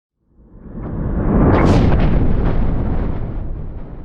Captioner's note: thunder